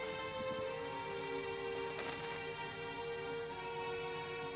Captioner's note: dramatic music; insects chirping; dramatic music